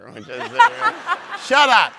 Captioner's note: audience laughs